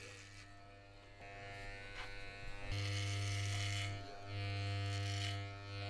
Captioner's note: hair trimmer buzzing